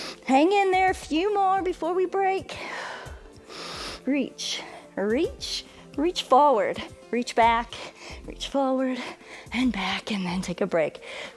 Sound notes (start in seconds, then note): 2.5 exhales and inhales